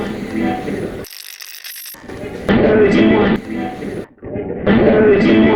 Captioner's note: radio channel changing; radio scratching; radio voice